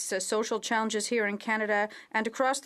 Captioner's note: speaking french